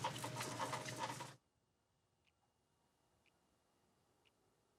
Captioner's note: clock ticking